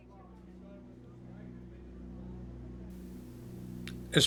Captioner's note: aircraft engines sounding